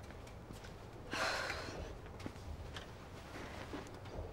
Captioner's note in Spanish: suspira